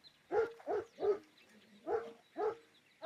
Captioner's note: continues barking